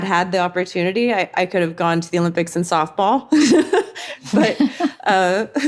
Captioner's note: chuckles